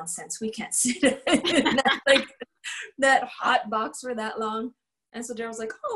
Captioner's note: laughter